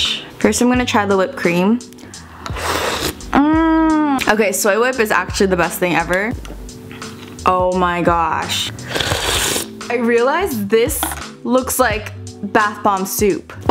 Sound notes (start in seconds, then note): 2.3 slurps; 8.8 sluuuuurps